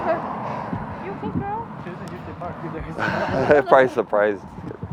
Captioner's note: couple talking